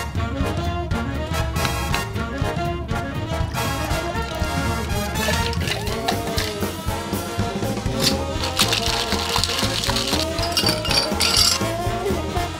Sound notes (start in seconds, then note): 1.6 knife chopping; 3.6 liquid pouring; 5.4 ice clanking; 7.8 ice shaking; 10.6 ice clanking; 12.3 liquid pouring